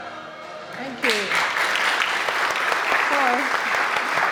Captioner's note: audience applauding